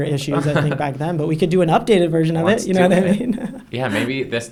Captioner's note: laughs